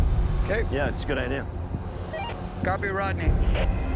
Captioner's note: walkie beeps